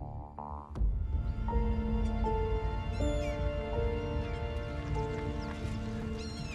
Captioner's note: gulls squawk; brooding orchestral music